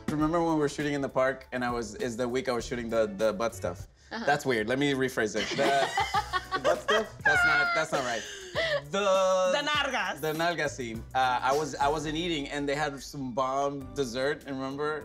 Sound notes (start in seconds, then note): 5.4 cast members laugh; 9.1 speaks in a foreign language